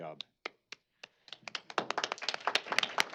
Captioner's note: applause